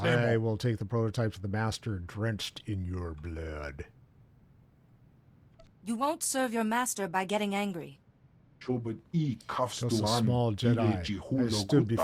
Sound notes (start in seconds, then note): 8.5 speaking foreign language